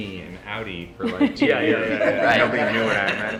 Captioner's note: all chuckle